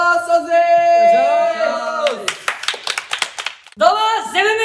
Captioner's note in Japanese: 拍手